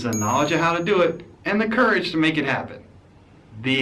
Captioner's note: ding